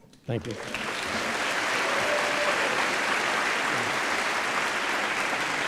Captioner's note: applause